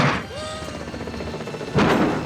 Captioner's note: gunshot